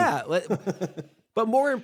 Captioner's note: laughs